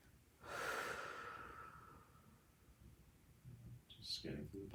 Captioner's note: exhales loudly